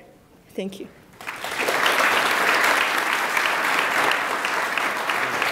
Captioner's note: attendees applauding